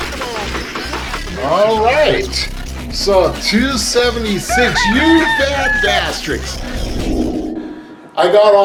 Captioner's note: rooster sound, whooshing